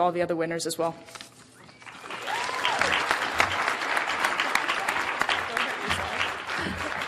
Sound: audience clapping; audience cheering

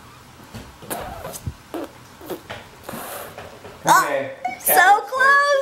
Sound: spitting and blowing

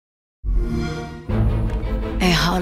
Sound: xbox sound

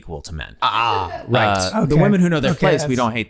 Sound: laughing

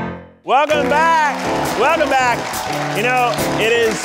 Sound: audience applauding

